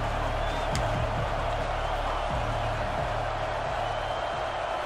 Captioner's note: crowd cheering